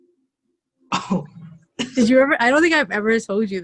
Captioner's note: feigns a coughs